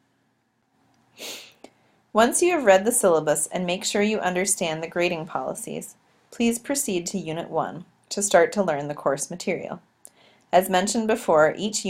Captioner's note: click